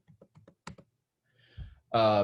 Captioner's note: typing